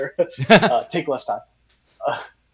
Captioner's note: both laughing